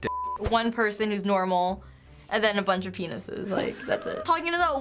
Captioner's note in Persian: خندیدن